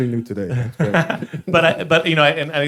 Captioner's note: all chuckling